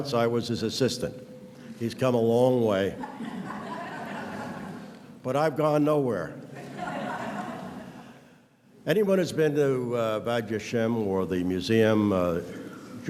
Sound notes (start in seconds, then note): 3.0 audience laughs